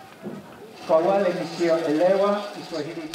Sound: speech in Swahili

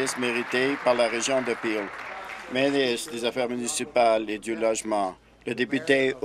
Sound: applause

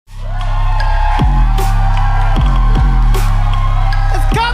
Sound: upbeat music; audience cheering

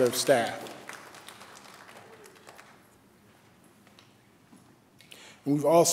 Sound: applause

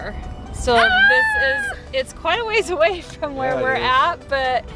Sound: screams

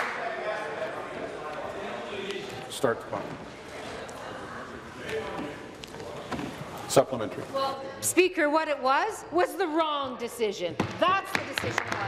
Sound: applause

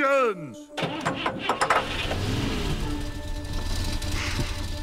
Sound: engine starting

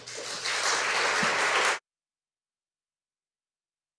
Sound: audience applauding

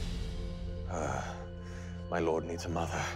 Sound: sighs

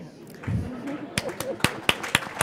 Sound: applause

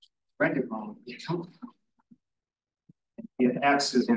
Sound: audio distorting

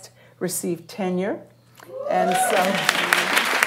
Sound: applause

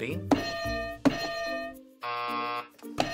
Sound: buzzer; hitting bell

